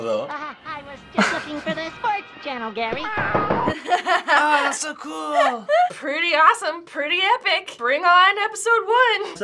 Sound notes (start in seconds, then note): 3.6 laughing